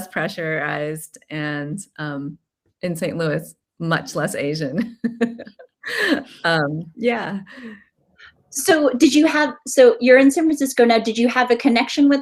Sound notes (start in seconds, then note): 5.0 laughing